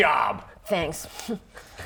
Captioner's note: hmph